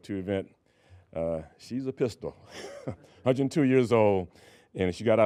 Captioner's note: laughing